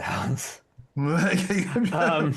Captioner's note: laughing